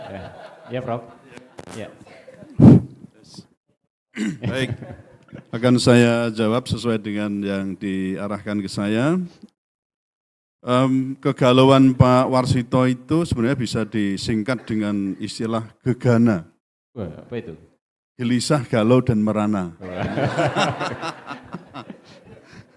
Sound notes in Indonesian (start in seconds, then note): 0.0 tertawa; 4.1 berdehem; 19.9 tertawa